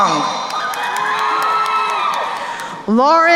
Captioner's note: crowd cheering and applauding